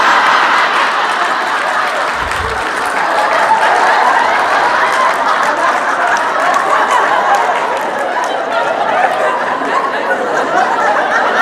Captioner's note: audience laughing